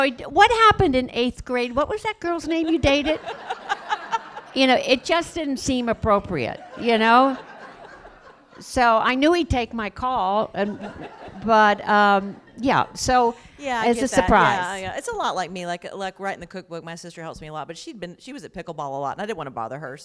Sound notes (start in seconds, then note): 2.7 laughter